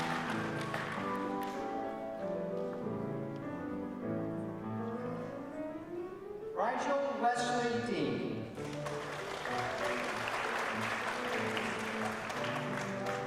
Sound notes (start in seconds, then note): 4.0 applause